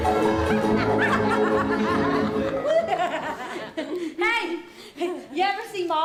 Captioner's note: laughs